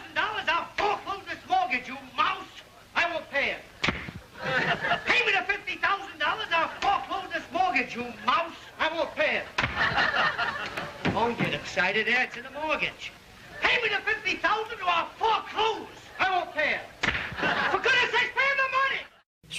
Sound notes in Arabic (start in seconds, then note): 3.8 صفعة باليد; 9.6 صفعة باليد; 17.0 صفعة باليد